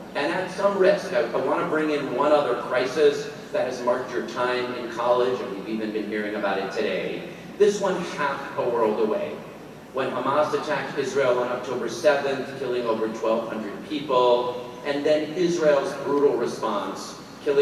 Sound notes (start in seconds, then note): none